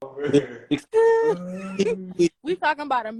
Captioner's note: laughter